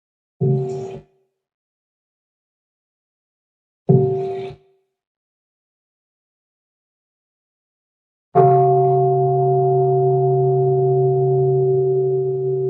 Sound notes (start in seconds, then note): 8.2 bell